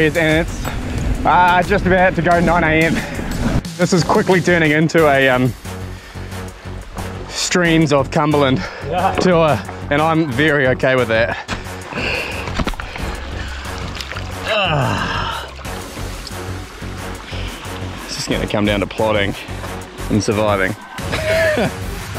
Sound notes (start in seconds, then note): 14.4 sighs; 20.9 chuckles